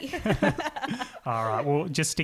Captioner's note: laughing